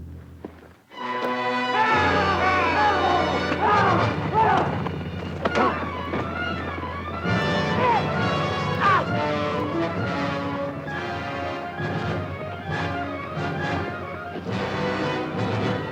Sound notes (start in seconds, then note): 1.2 dramatic orchestral music; 1.7 Jeff and Greer yell